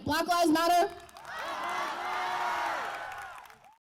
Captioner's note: crowd: Black lives matter! cheers, applause